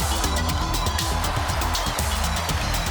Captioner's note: cheers and applause